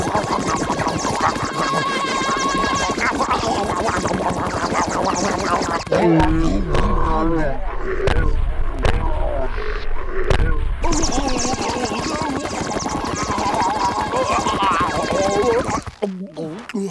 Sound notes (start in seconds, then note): 0.0 choking; 5.8 groaning; 10.9 choking